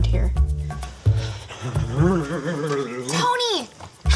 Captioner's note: shivering